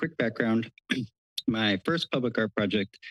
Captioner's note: clears throat